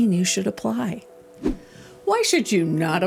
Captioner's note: air whooshing